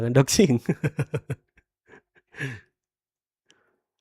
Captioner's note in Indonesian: tertawa